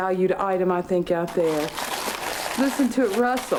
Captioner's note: wrapper rustling